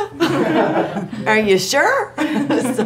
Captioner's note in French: rires